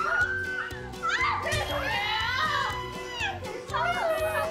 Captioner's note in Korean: 절규